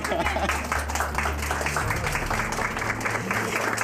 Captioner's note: applause